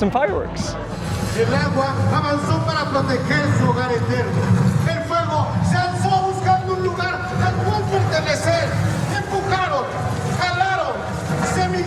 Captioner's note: performer speaking in Spanish